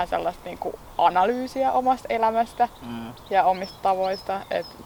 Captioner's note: birds whistling in the background